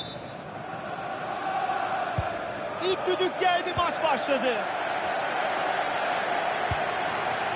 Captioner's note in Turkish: coşkulu tezahürat